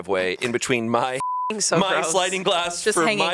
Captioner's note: beep